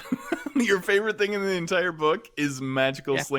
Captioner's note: laughs